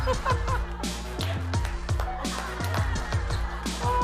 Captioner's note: Jae Suk's Real Laughter